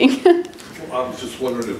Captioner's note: laughs